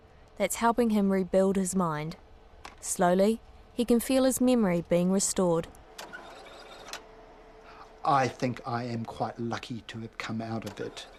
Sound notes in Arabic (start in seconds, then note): 6.1 صوت دوران